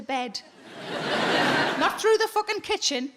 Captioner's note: audience laughing